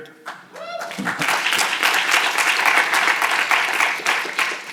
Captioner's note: audience cheering